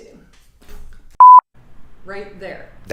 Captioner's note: beep